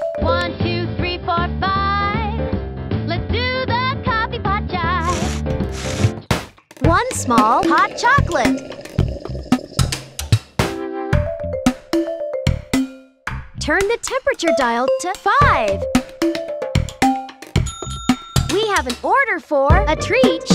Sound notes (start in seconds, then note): 17.6 bell dinging